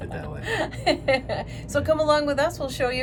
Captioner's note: laughs